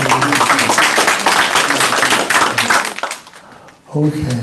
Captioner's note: applause